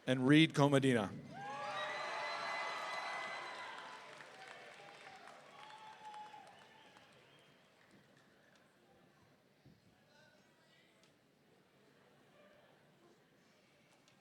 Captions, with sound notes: And Reed Komadina. (audience cheering)